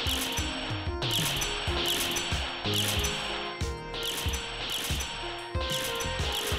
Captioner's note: continuous instaKILL notifications